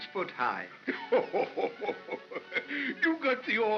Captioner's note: Santa laughs